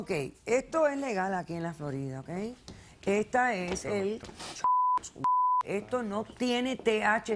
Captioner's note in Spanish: Bip